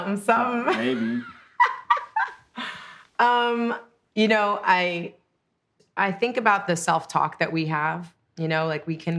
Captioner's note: laughs